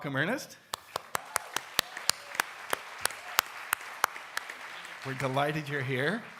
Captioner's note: audience and panelists applaud